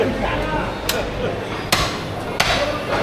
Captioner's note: crowd chattering